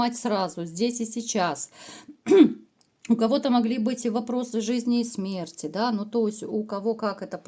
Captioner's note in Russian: откашливается